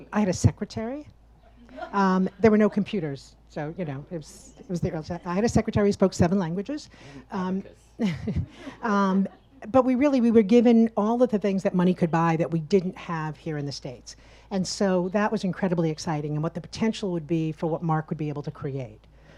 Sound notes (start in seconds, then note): 1.6 audience laughs; 8.0 laughs; 8.0 audience laughs